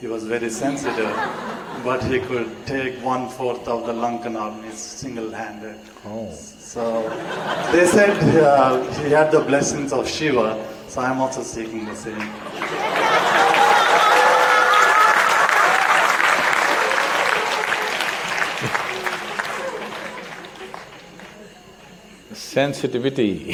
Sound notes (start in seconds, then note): 0.5 laughter; 6.8 laughter; 11.4 laughter/Applause; 15.1 laughs